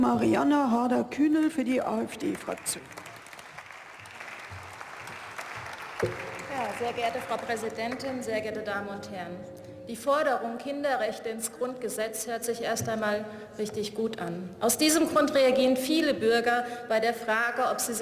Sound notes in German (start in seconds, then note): 2.0 Beifall